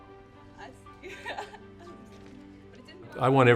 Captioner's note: woman laughing